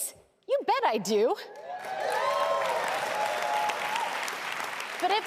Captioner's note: applause